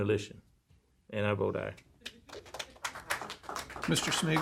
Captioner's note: applause